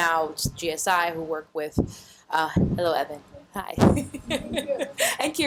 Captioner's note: laughs